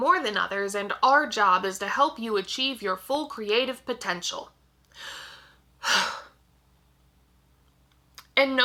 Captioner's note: dramatic breath